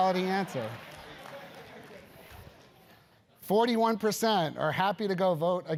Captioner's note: applause